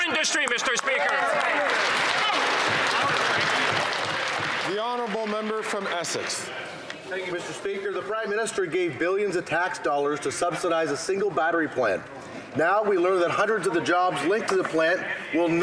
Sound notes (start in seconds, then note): 5.1 some Applause